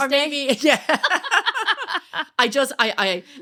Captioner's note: laughing